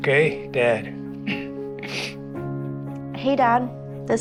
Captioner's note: Hardy clears throat, sniffles